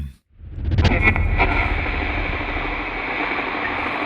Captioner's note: radio crackling